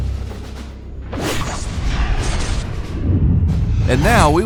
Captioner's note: arrow flying